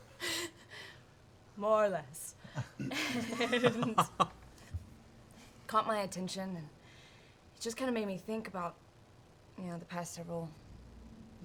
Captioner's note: laughs